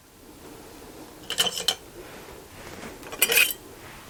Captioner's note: rattling